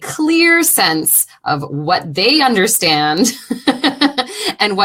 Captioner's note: laughing